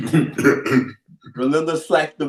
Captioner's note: chuckles